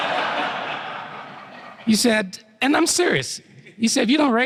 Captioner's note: laughter